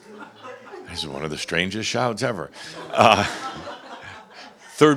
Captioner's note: more chuckles